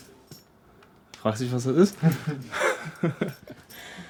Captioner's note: laughs